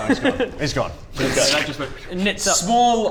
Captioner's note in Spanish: shoom